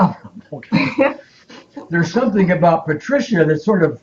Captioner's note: both giggling